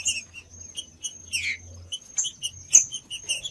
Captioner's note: trinca ferro cantando